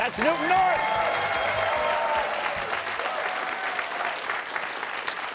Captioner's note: cheers and applause